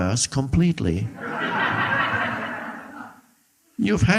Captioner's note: audience laughing